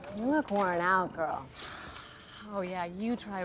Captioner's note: sighs